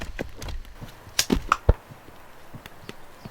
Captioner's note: click